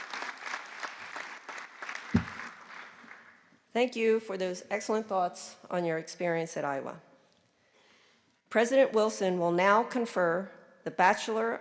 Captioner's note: applause